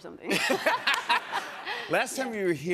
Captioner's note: laughter